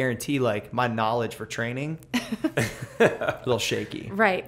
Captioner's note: laughter